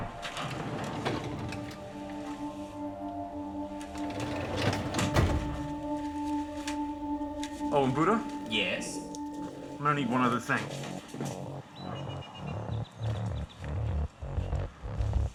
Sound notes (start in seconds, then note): 0.1 heavy drawer opening; 4.0 heavy drawer closing